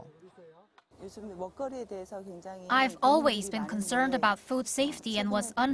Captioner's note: Korean